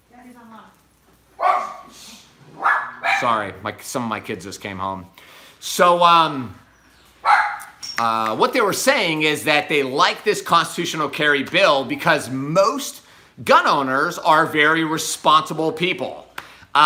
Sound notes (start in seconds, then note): 2.5 dogs bark; 7.2 dog barks; 7.4 fingers snap